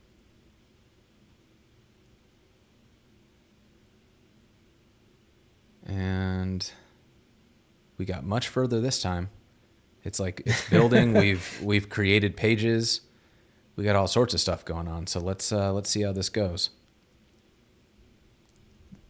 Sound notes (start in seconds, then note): 10.4 chuckles